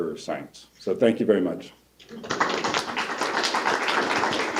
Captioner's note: applause